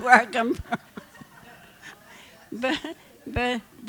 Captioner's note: laughter